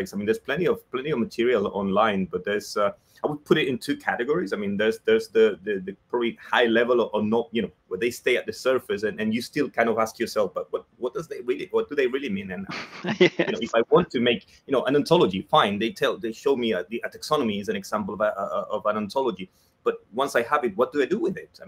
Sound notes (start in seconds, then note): 12.6 laughs